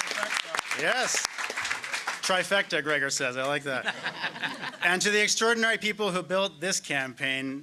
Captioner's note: applause